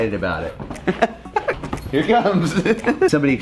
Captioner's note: laughs